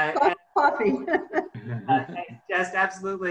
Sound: laughs

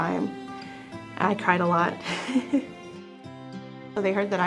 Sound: laughing under breath

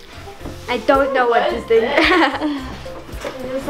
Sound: laughs

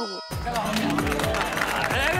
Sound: applauding

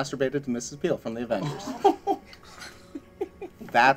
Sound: laughing

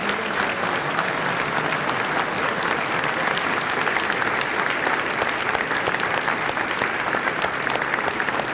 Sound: applause

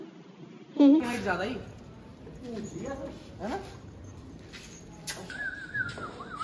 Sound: indistinct chatter

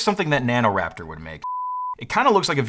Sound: screen beeps

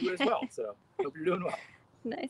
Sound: facilitator laughing

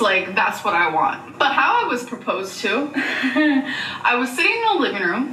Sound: chuckles

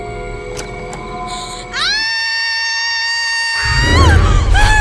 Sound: scream

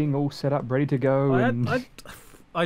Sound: sighs

